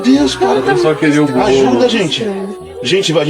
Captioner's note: portuguese dialogue continues